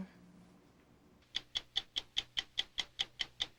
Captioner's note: ticking